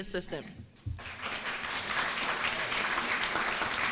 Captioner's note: applause